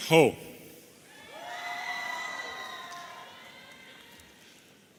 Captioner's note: audience cheering